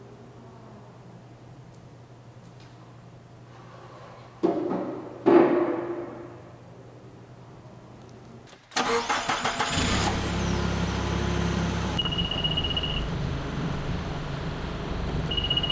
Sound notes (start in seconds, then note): 8.7 engine starts; 11.9 beeping